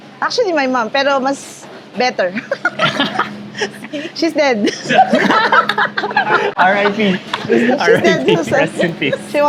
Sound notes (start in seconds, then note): 2.4 chuckles; 4.6 laughs